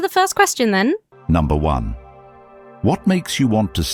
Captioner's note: AI Voice